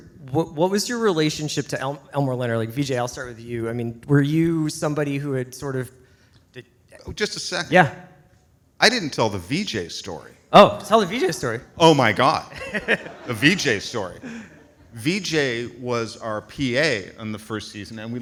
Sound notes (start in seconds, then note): 13.0 audience applauds